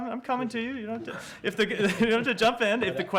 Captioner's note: laughter